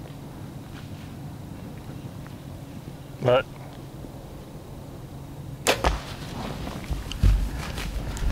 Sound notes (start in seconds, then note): 5.6 bow shot heard